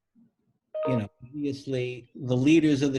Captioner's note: beeps